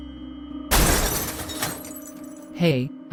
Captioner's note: crashing